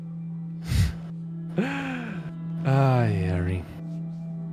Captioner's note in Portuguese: Risada